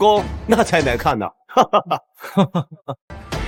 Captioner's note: laughter